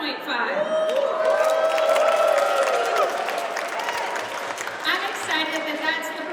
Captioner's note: audience cheers and applauds